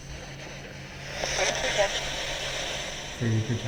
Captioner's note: spirit box voice